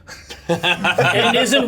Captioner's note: laughter